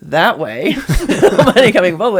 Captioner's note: laughing